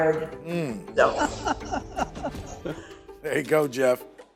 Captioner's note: laughs